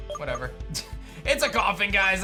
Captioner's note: chuckles